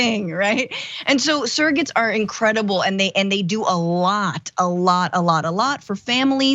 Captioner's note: laugh